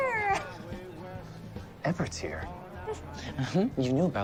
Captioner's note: instrumental music; chuckles